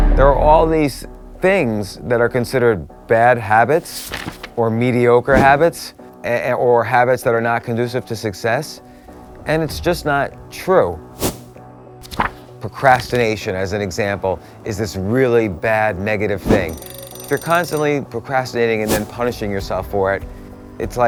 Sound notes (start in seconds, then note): 12.0 page turning; 16.6 alarm clock ringing